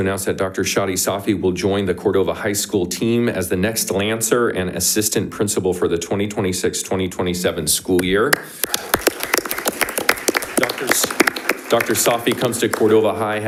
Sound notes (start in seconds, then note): 8.4 audience applauding